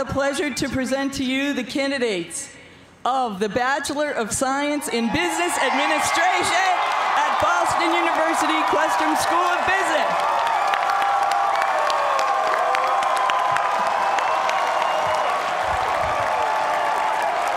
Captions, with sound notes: to present to you the candidates of the Bachelor of Science in Business Administration at Boston University Questrom School of Business. (cheers and applause)